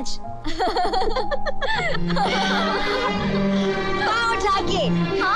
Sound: laughs

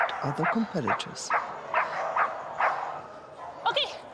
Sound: Posh continues barking

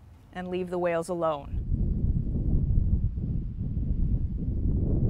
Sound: wind whooshing

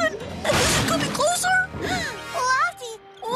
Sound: crash!; gasps

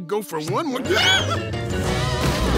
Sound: screaming

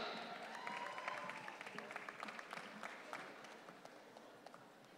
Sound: audience cheering

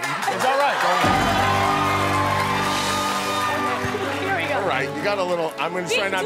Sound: cheering

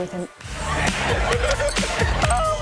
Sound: guys laughing

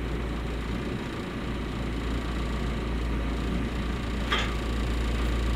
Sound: telehandler engine rumbling

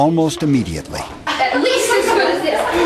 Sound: people talk excitedly, laughing

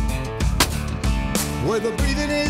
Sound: gun firing

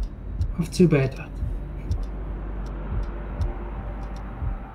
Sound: irregular clock ticks

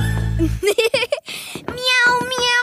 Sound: giggles

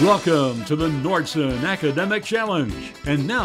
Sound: voiceover

